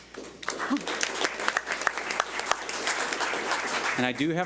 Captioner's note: audience applauds